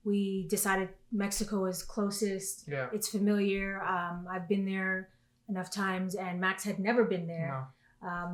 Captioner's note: none